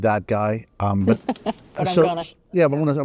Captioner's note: laughs